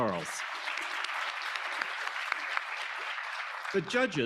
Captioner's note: audience applauding